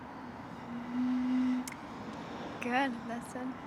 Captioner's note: blowing